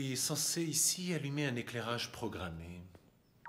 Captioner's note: beeps